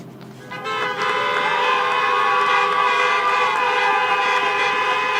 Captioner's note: applause